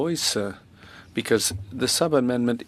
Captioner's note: speaking French